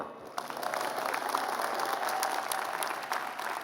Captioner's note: applause